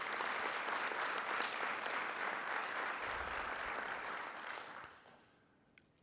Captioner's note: applauding